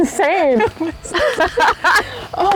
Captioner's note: laughter